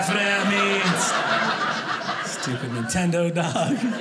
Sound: audience laughing

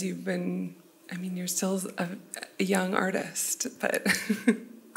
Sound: laughs

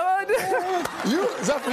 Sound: laughter

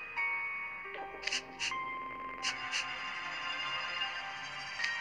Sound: sniff sniff

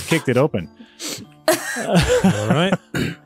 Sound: laughing

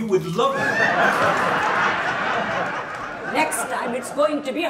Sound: audience laughs

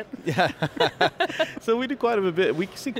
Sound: laughing

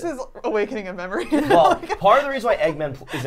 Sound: laughing

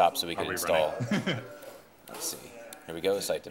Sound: chuckling

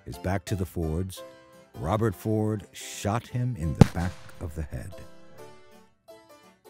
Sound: gunshot

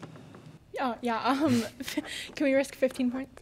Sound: chuckles

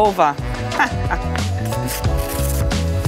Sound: laughing

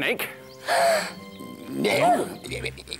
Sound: gasp!

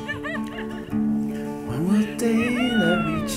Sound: laughing

